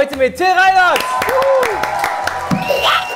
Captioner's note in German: Jubel, Applaus